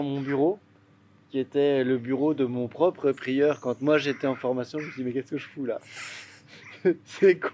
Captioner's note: laughs